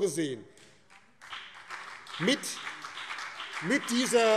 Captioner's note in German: Beifall BÜNDNIS 90/DIE GRÜNEN und vereinzelt CDU